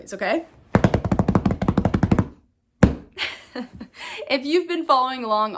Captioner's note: hands drumming